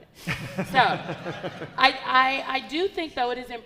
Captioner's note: audience laughing